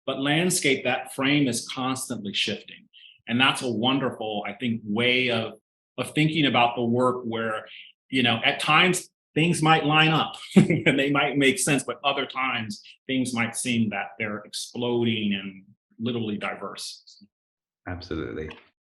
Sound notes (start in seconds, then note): 10.4 chuckling